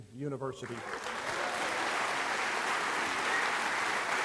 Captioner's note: applause